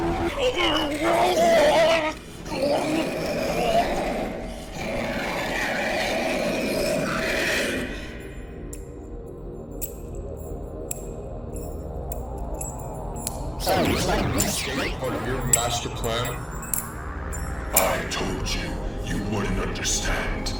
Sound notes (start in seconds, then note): 4.6 Hunter roaring; 7.5 Sound of the Castigators spurs